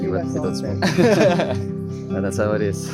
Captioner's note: laughs